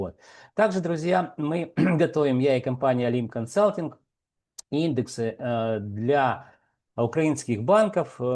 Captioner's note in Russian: откашливается